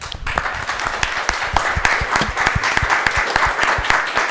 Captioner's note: audience applauding